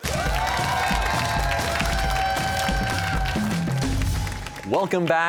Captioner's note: cheers and applause